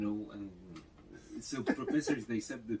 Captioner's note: laughs